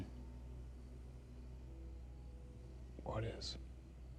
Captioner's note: crickets chirping